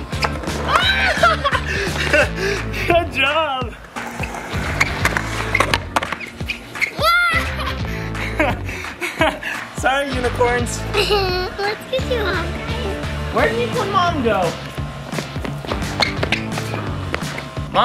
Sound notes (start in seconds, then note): 6.0 hollering; 15.3 upbeat music